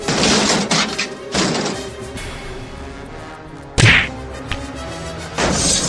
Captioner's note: none